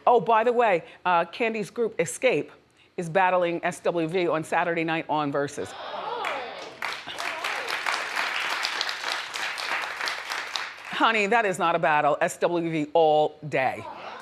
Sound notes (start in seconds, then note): 6.2 audience applauds